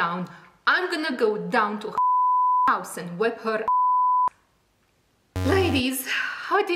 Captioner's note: beep 00:08:13